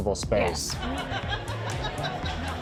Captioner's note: laughter